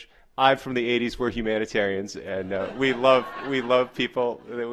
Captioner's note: laughter